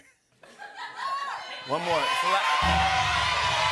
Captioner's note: audience shouts numbers; drum roll